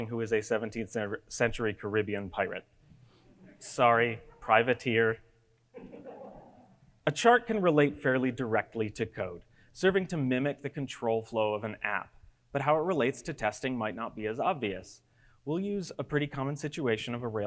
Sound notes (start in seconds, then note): 5.8 audience giggles